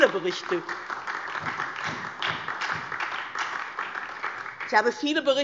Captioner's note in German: Beifall DIE LINKE und SPD